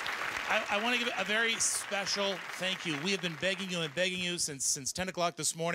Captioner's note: applause